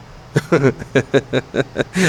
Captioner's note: laughs